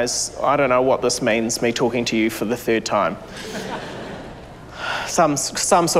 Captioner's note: laughter